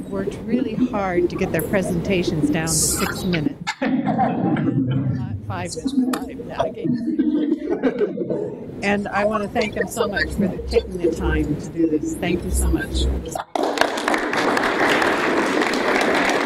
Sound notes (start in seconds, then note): 3.6 audience laughs; 13.4 applause